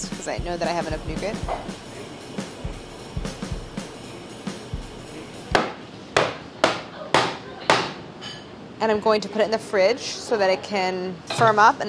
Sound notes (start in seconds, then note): 1.6 chill, drum music; 5.3 banging